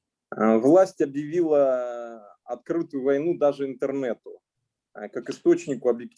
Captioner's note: speaking Russian language